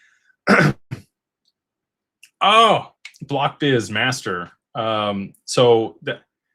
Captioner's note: clears throat